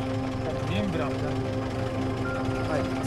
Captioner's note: car engine